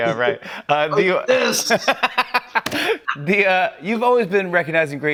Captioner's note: laughs